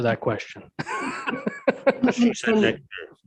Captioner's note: both laughing